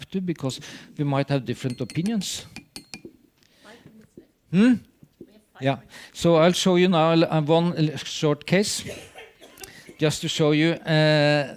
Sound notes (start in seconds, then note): 1.6 timer chiming